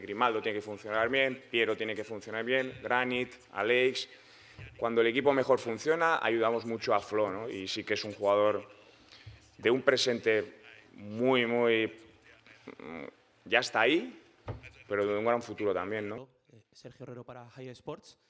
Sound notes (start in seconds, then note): 5.3 Spanish